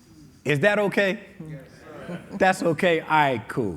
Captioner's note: audience agreeing